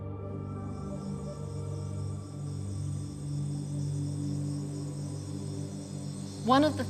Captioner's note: crickets chirping